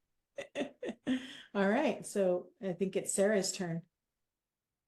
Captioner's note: laughs